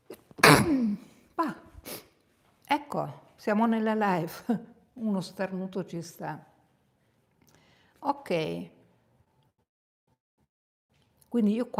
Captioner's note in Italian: sbuffare